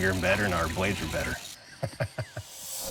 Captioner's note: laughing